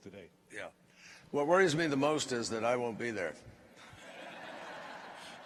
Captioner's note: laughter